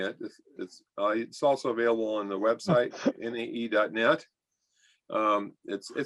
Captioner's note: laughter